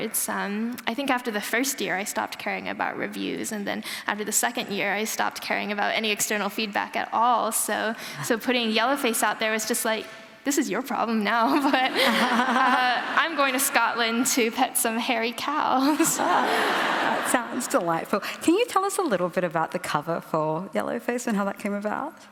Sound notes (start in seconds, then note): 11.5 laughter; 15.8 laughter